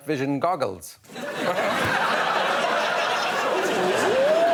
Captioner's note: laughter